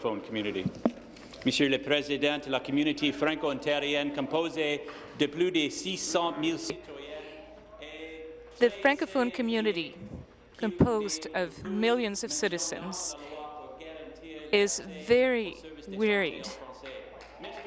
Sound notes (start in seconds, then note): 5.2 speaking in french